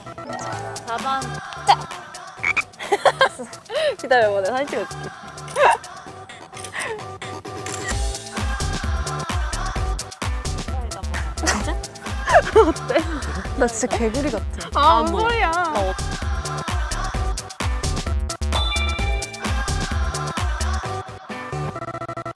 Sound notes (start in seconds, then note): 12.0 laughing